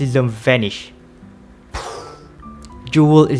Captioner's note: poof